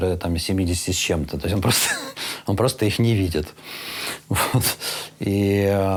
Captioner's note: chuckles